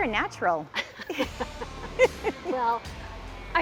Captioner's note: laughing